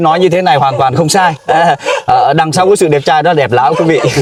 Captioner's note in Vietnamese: tiếng cười